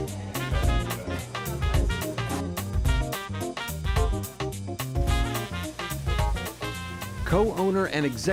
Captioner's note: resturant Sounds